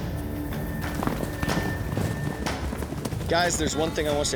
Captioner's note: hoofbeats